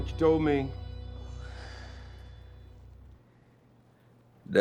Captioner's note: sighs